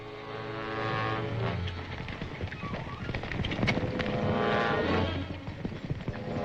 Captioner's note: tense uneasy music; hooves clopping